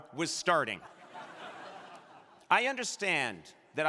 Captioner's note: crowd laughing